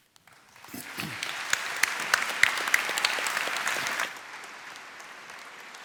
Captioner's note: applause